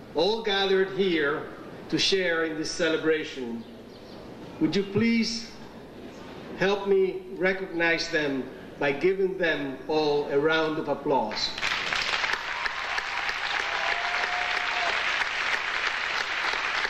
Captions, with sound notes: all gathered here to share in this celebration. Would you please help me recognize them by giving them all a round of applause? (audience applauding)